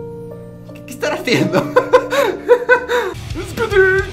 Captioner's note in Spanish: risas... Xd